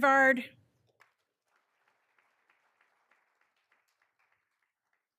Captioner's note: all applauding